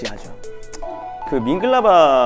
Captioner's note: clicks his tongue